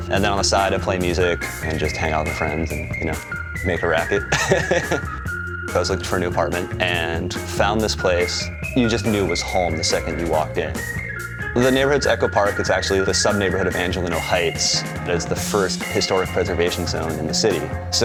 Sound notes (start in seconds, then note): 3.8 laughs